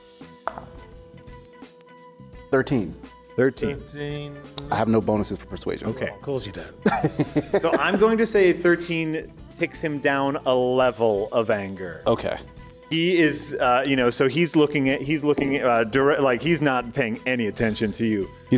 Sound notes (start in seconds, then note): 6.8 laughs